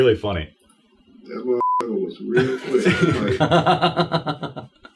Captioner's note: beep; laughs